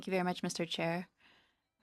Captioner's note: speaking in French